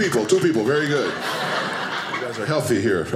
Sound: audience laughing

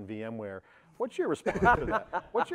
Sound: laughter

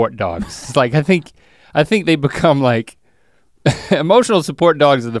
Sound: chuckles

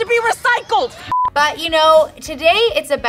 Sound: beep

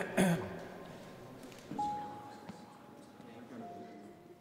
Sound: Sonny clearing throat

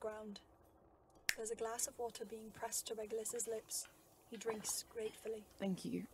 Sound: snap of fingers

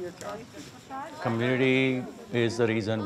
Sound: temple visitors speaking to each other

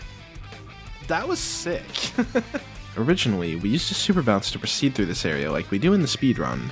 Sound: laughs

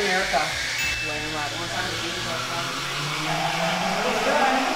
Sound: siren wails

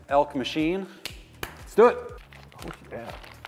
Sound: snaps fingers; claps hands; plastic crinkles

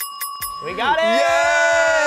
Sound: bell dings

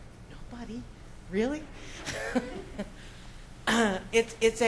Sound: laughs

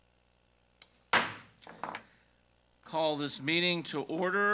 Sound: gavel bangs

